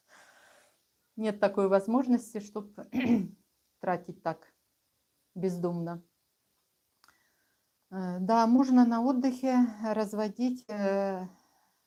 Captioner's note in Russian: откашливается